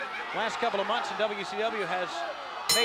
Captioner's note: crowd chatter